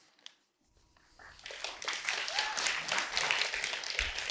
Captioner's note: audience claps